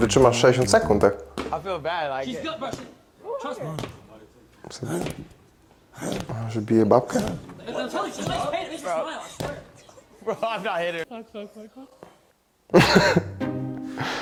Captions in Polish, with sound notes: wytrzymasz 60 sekund? Tak, [parsknięcie] że bije babkę. [śmiech]